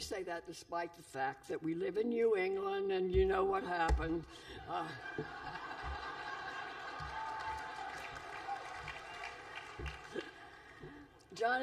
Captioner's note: laughter